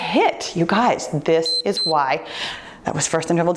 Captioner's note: timer beeps